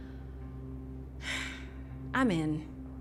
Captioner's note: sighs